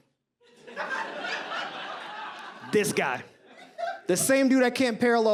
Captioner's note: audience laughs